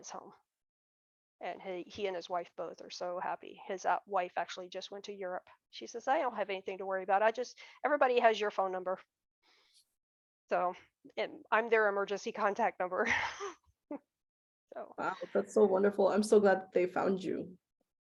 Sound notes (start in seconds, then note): 14.7 chuckles